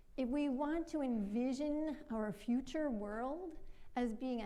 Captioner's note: none